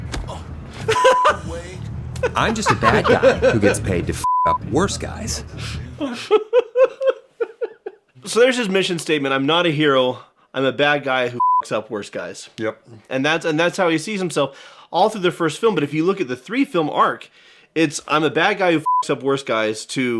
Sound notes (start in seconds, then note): 11.4 beeps; 18.8 beeps